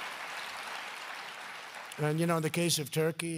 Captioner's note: applause